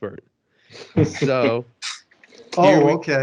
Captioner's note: laughter